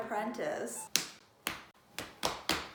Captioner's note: slap Slap